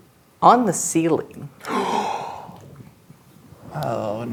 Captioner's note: gasps